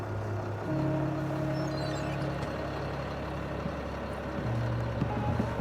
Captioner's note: bus engine idles